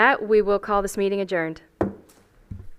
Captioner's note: gavel hitting dais